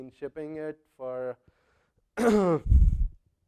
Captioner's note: cough